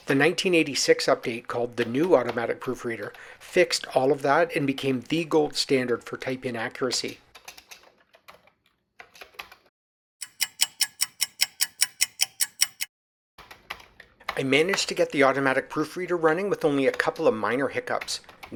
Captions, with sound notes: The 1986 update, called The New Automatic Proofreader, fixed all that and became the gold standard for type-in accuracy. [sound of a ticking clock] I managed to get The Automatic Proofreader running with only a couple of minor hiccups.